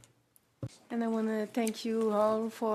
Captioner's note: speaking French